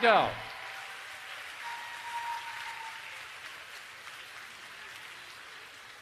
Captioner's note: applause